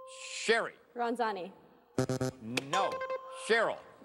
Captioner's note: buzzer